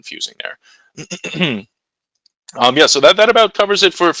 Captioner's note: clears throat